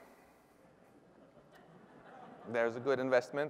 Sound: laughter

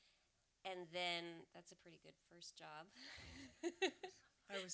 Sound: laughs

